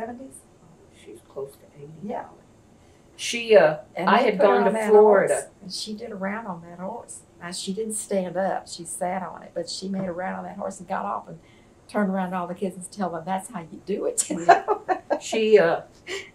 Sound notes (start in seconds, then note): 14.2 laughs